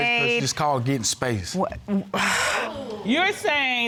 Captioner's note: sighs